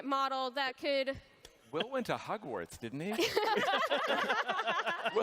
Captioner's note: laughter